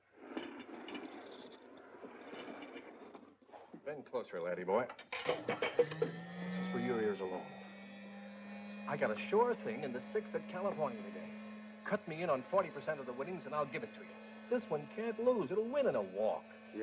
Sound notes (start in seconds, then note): 0.2 plate and cup rattling; 5.1 milk shake machine whirs